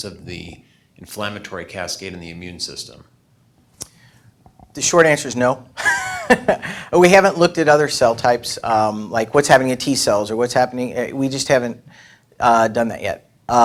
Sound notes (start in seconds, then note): 5.8 laughs